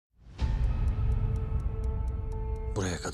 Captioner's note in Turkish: saat tıkırtısı